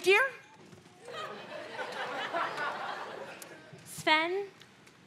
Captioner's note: audience laughing